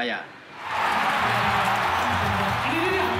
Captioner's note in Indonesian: sorak sorai